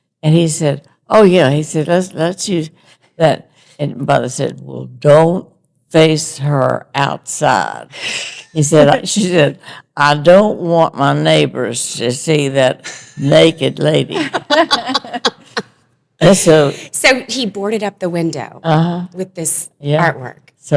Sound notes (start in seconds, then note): 14.2 all laughing